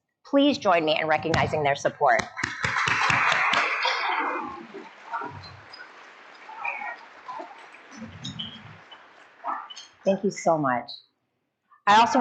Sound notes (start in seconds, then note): 2.2 crowd applauding